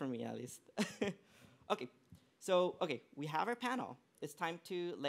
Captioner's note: laughs